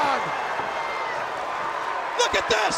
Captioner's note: crowd cheering